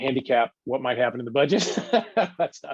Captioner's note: laughs